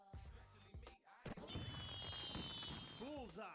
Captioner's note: fireworks popping